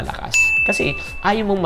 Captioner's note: chime